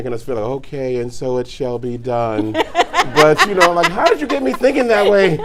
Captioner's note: laughing